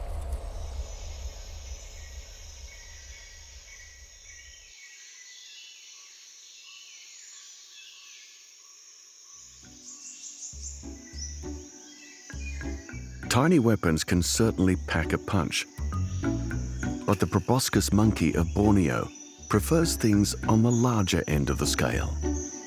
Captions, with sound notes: -[insects trilling] -[birds chirping] Tiny weapons can certainly pack a punch. But the proboscis monkey of Borneo prefers things on the larger end of the scale.